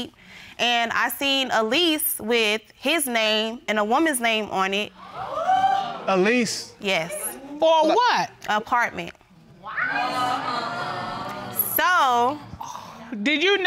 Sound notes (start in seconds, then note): 9.6 audience exclaims